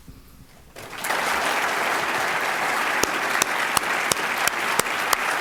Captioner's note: applause